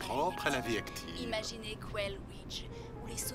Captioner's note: voiceover